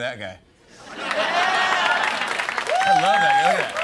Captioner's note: cheers and applause